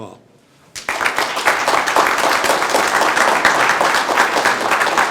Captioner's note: group applauding